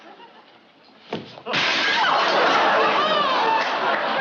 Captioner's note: shattering